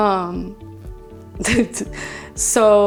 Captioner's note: chuckles